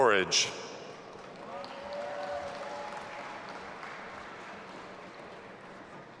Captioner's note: audience applauding and cheering